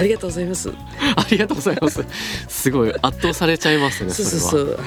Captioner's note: laughs